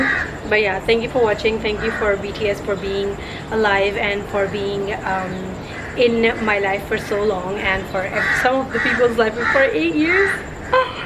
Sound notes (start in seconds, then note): 10.6 cries